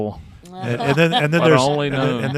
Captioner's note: laughing